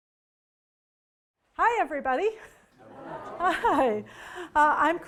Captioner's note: crowd murmuring